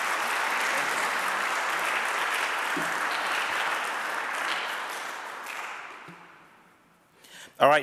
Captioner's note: audience applauding